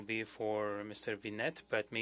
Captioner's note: speaking French